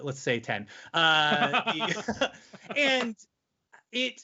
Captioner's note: laughing loudly